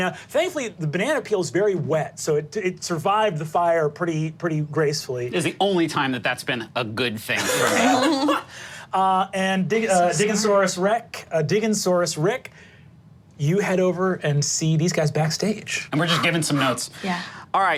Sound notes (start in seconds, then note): 7.4 laughs